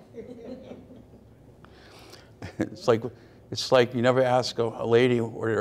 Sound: audience laughs

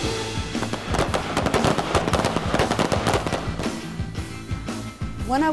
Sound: rifle shots

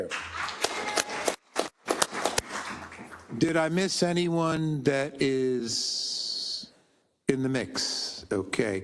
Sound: applause

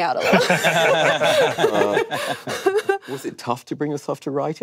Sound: panel laughing

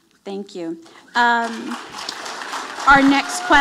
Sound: audience applauding

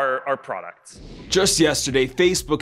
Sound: whoosh

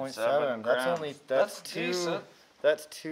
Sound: none

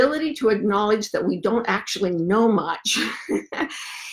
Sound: laughs

